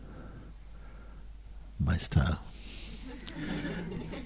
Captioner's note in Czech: smích